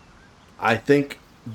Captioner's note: silence